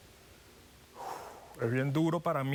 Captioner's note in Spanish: exhala